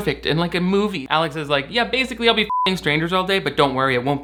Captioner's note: beep